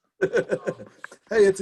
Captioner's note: laughs